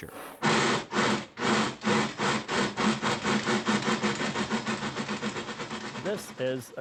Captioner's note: chuffing